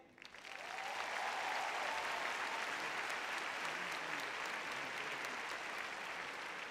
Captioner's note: applause; cheering